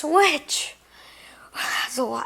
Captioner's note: exhale